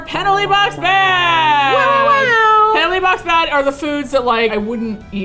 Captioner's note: makes air horn sounds